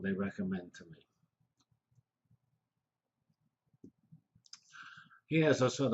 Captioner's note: pause